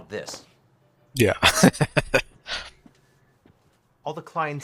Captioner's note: laughing